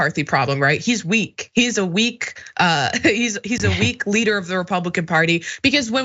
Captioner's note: laugh